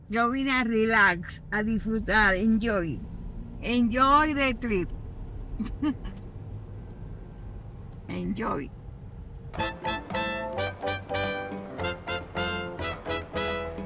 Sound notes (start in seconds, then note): 5.6 chuckles; 9.5 lively music